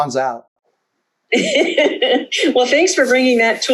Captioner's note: laughs